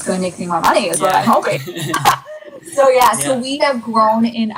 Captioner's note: laughs